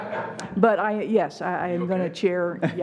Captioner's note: laughing